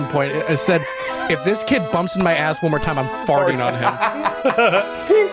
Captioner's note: laughs